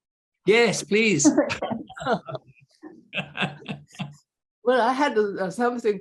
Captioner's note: chuckling